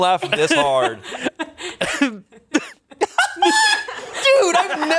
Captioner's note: laughs